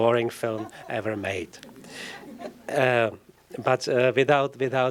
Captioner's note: scattered laughter